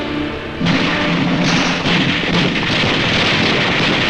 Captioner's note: guns firing